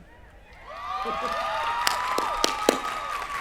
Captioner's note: cheering